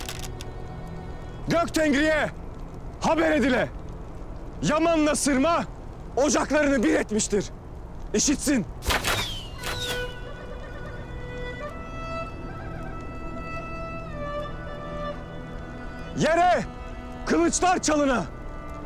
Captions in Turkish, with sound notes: Gök Tengri'ye, haber edile. Yaman'la Sırma... ... ocaklarını bir etmiştir. İşitsin. [Ok Sesleri] Yere kılıçlar çalına...